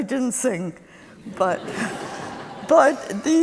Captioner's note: laughter